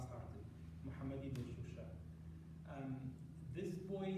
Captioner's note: non-english